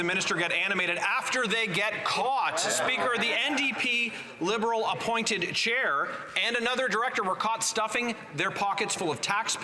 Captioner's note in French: voix de l'interprète